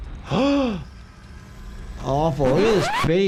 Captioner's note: gasping